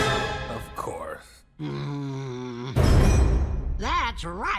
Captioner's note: grumbling